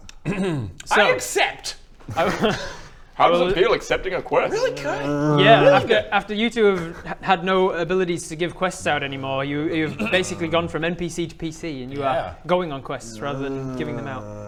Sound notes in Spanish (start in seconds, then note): 5.3 gemido